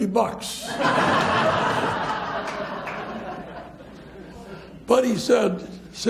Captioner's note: audience laughs